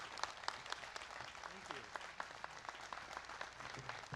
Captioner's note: applause